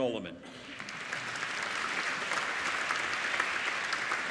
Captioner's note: applauding